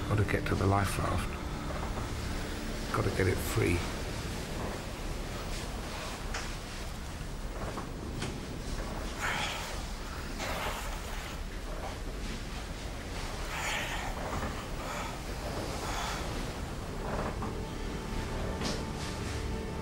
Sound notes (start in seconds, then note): 5.3 inhales deeply; 9.2 panting; 9.2 water sploshing; 17.0 brooding music